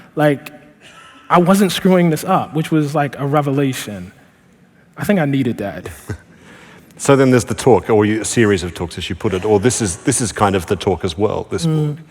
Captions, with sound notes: like, I wasn't screwing this up which was, like, a revelation. I think I needed that. >> [Laughing] So then there's the talk or your series of talks, as you put it. Or this is kind of the talk as well at this point.